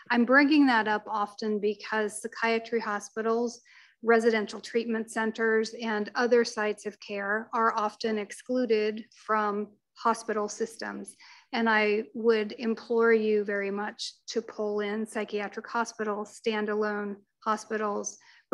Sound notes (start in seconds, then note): none